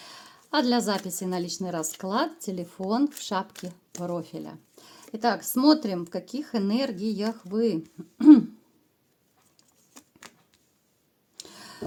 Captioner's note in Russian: откашливается